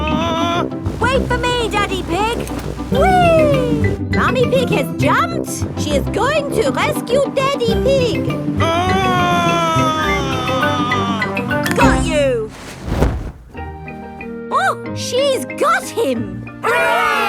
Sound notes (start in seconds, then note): 0.0 screaming; 8.6 screaming